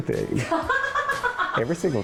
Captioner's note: laughing